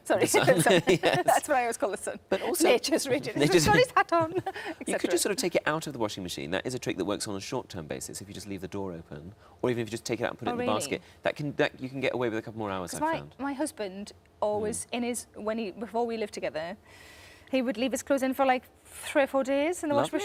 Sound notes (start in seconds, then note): 0.2 Sarah and Tom laughing; 3.6 speaks in Geordie